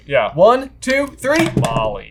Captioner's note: boards clack